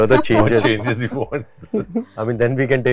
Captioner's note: laughs